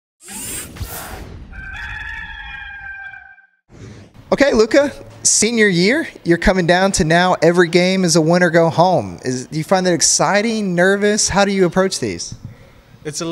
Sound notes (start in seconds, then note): 1.5 rooster crowing